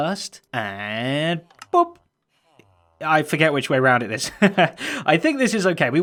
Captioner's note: chuckles